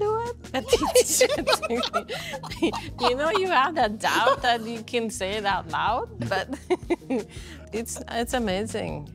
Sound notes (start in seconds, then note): 0.6 people laughing